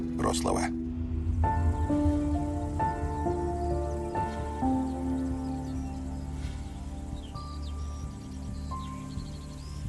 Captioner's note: birds singing